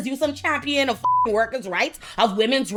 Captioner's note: beep